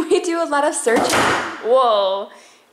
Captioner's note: door slams